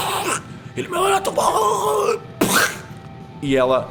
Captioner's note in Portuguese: engasgando